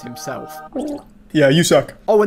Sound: gurgles

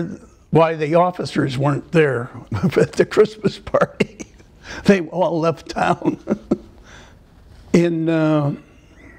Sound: laughter

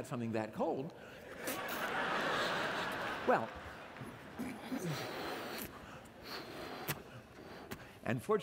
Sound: laughter

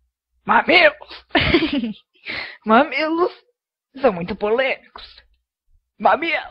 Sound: laughs

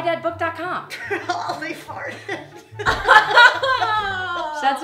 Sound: laughter

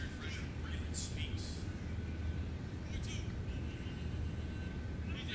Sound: TV Announcer speaking

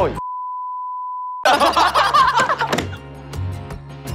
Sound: hahaha

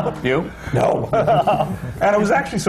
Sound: laughter

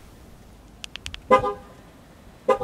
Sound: click; car horn beep sound

